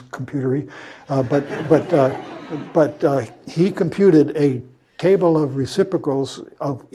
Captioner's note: laugh